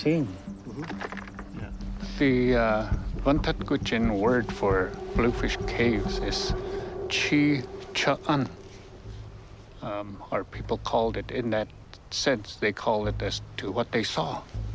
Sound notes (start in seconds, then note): 6.5 speaks in native language; 9.4 in English